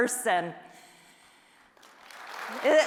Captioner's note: applause